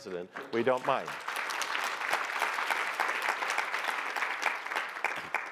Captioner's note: applause